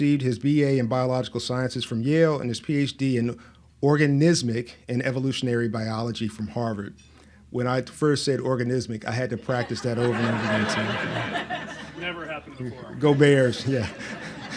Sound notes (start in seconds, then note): 11.4 laughs